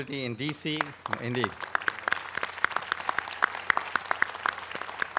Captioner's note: applause